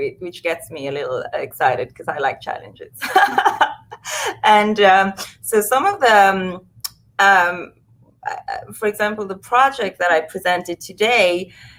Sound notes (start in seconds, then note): 3.0 laughs